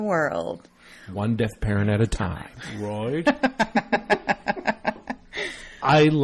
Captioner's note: laugh